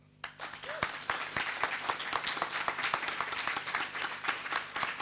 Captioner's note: audience clapping